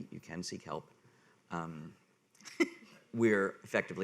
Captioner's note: woman laughing